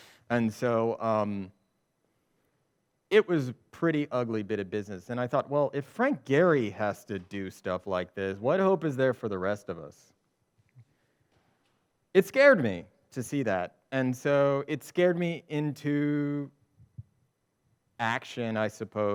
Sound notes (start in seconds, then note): none